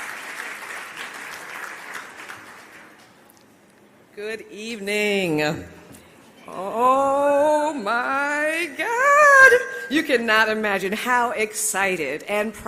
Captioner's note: applause